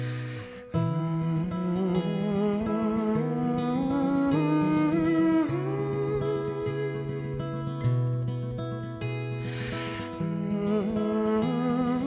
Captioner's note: humming